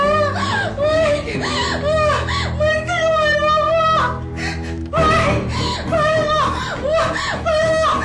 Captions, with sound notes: Mike, please help me... [Sylvia breathing heavily] Mike... Please...